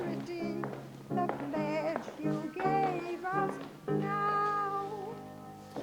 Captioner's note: heels clack